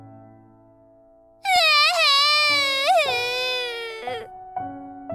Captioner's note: sob